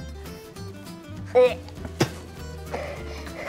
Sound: spits

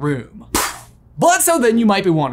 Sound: puffs

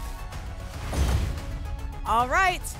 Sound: whoosh; thump

